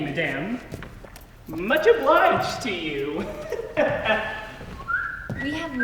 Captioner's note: laughs and continues to whistle